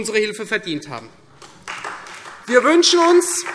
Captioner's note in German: Beifall